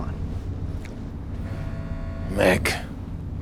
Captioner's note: alarm blaring